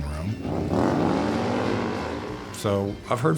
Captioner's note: motorcycle revving